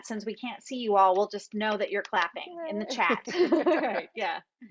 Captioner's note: laughs